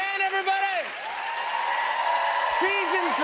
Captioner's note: cheers and applause